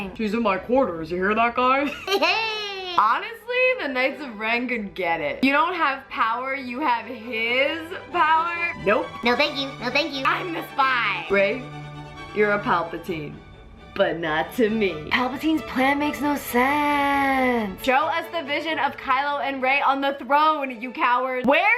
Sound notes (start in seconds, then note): 1.9 laughs; 9.1 high-pitched voice